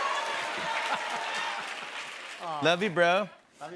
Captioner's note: laughs